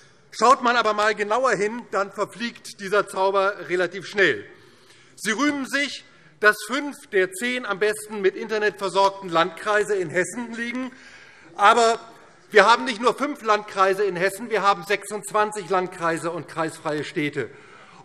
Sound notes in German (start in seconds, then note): none